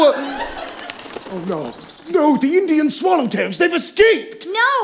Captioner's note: birds flying away